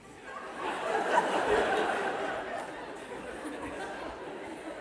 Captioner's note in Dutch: gelach